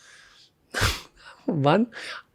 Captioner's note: laughs